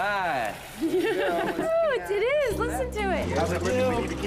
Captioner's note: laughs